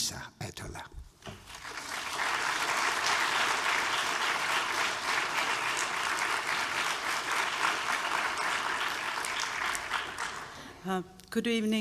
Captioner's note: applause